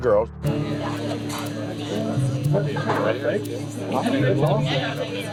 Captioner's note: bar chatter